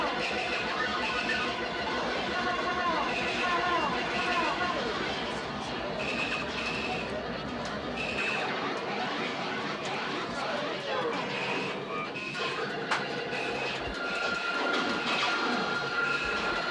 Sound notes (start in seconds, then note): 3.1 electronic beeping; 8.4 arcade ambience